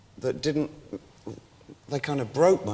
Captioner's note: struggles to find his words